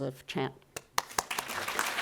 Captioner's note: clapping; audience clapping